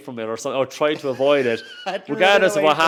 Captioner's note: host laughs